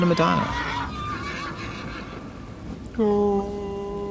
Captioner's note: horse whinnying; wailing